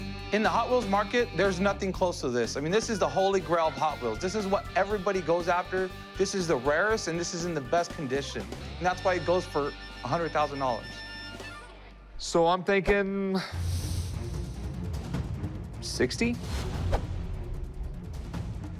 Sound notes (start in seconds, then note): none